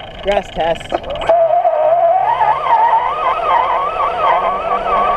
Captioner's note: motor whirring